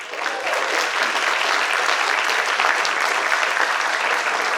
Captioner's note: participants applaud